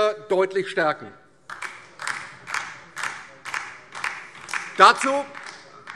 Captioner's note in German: Beifall DIE LINKE